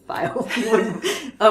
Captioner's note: both laughing